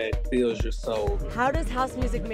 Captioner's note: soundbite of archived recording